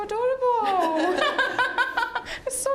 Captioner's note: all laughing